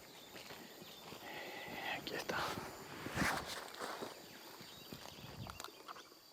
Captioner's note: speaks foreign language